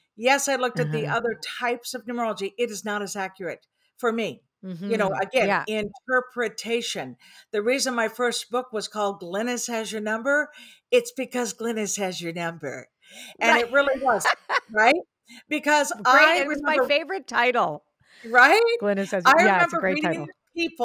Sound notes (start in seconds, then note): 13.4 laughing